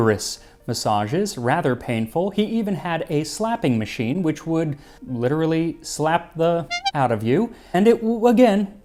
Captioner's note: honk